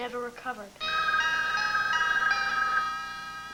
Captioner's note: telephone rings